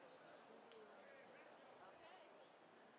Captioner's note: none